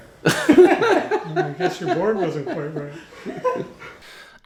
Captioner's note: laughter